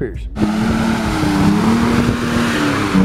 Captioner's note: engine roaring